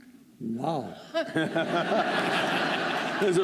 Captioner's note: laughter